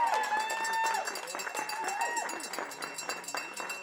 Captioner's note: cheering